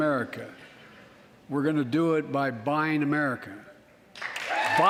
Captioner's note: applause